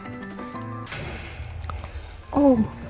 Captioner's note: explosion sound